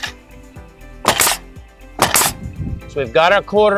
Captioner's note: nail gun thumping